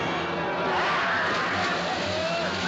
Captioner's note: Gritos